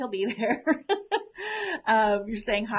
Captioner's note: laughs